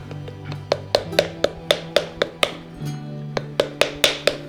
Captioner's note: paddle-knocking noise